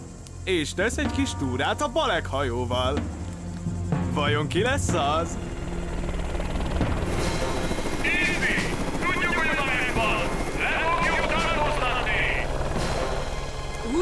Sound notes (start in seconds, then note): 5.2 helicopter blades whirling; 8.3 on megaphone